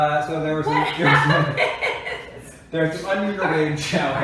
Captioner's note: laughing